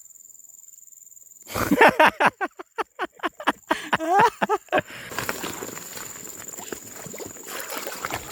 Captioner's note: laughs